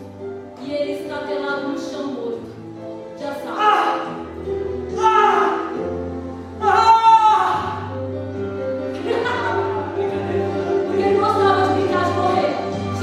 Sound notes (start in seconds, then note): 4.4 scream; 8.2 laughter